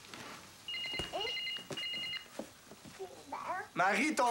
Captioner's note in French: Un cellulaire sonne